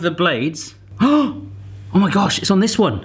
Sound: gasping

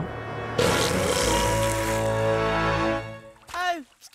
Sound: monster gulps and burps; Mighty Eagle yells

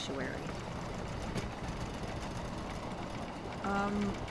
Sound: loud train passing outside; things in the room rattle and shake

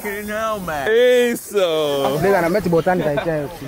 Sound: speaking Portuguese; local speaking Portuguese

